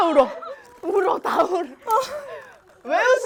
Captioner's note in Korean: Everyone’s crying from the shock